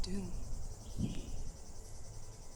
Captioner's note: thunder